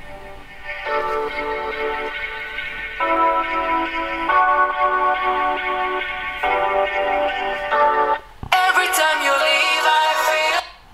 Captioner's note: audio tracks from the smartphone's speaker sound